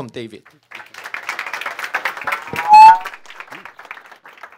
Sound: audience applauding

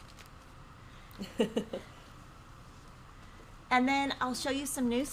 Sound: laughs

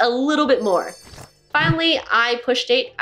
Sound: jingling sound

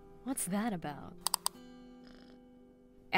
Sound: mouse clicks

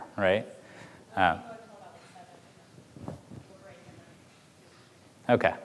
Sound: speaks faintly

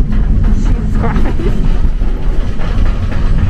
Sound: laughs

